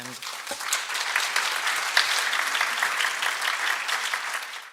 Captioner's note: applause